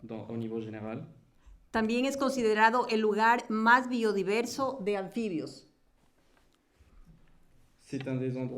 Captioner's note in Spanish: Español